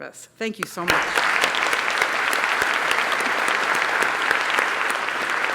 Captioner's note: applause